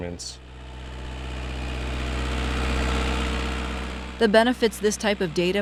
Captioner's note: platform rumbling